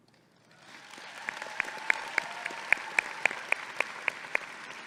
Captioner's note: audience applauding